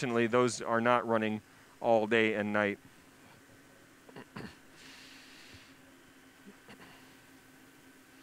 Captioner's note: clears throat